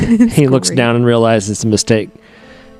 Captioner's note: laughter